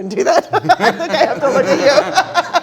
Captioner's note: all laughing